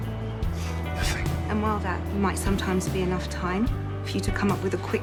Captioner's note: voiceover